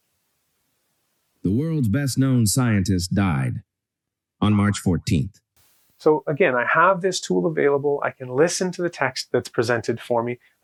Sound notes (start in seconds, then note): 1.3 AI speech